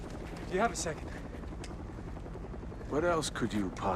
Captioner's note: helicopter flying